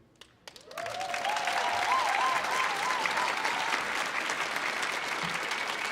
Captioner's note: audience applauding